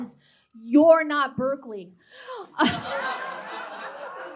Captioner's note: gasps; audience laughter